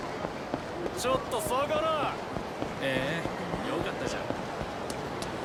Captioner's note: characters speaking Japanese